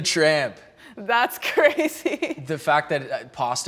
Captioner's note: laughs